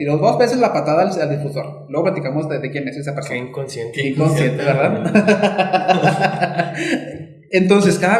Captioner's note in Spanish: risas